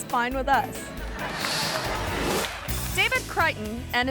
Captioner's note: audience laughing; image whooshes